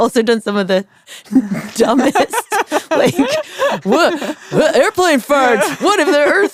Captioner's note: laughs